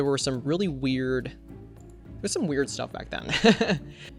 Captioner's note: laughs